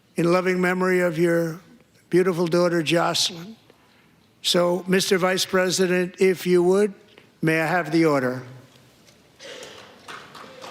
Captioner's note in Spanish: aplausos